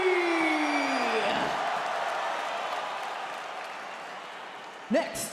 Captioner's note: crowd cheers